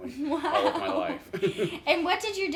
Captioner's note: chuckles